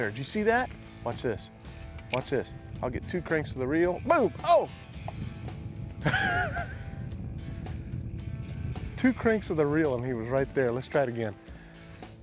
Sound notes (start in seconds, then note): 6.1 laughs